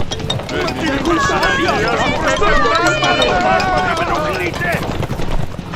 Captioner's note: panicing voices